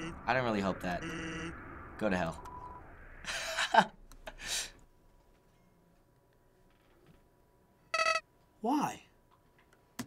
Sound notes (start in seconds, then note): 3.1 laughing; 4.8 silence